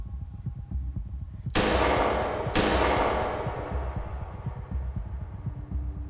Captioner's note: two gunshots echo